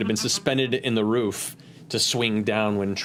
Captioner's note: none